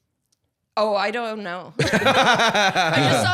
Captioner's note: laughing